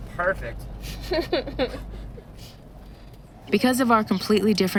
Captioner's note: chuckling